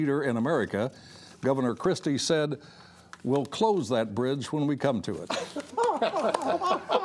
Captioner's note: laughter